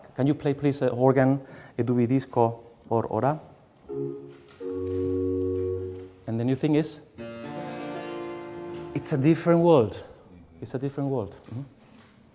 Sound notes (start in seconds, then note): 1.8 speaks in foreign language; 3.9 organ playing